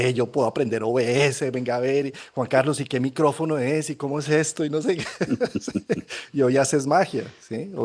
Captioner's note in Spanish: risas